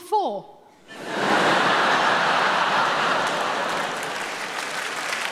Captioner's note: audience laughing; audience clapping